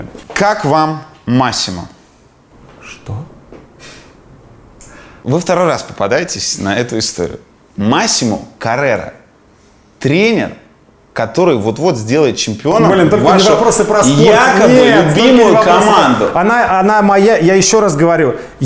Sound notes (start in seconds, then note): 3.8 Dud' sighs